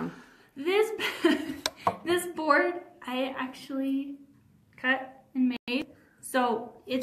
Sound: chuckles

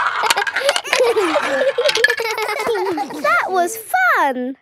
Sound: all giggling

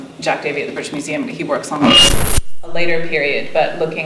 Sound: microphone screeches

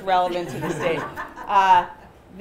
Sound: laughter

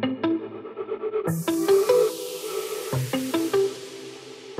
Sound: faucet water running; upbeat music

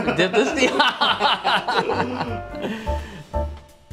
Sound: evil laugh

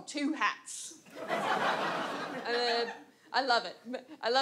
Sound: audience laughs

